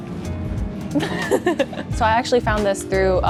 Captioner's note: giggles